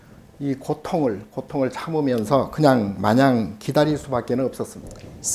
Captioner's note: speaking Korean